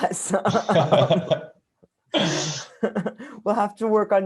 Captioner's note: laughter